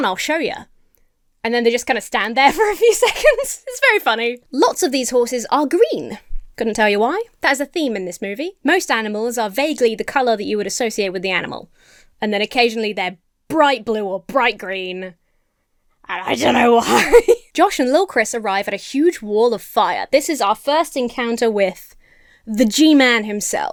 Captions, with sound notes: “I'll show ya.” And then they just kinda stand there for a few seconds. (laughs) It's very funny. Lots of these horses are green. Couldn't tell you why. That is a theme in this movie. Most animals are vaguely the color that you would associate with the animal. And then, occasionally, they're bright blue or bright green and I don't know why. (laughs) Josh and Lil' Chris arrive at a huge wall of fire. This is our first encounter with the G-man, himself.